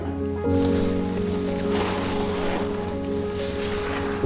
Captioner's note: skis scraping